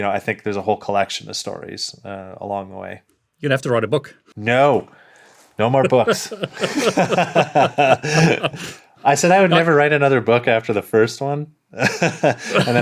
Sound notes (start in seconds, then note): 5.8 laughing; 11.8 laughs